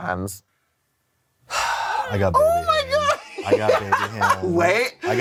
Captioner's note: sigh; laugh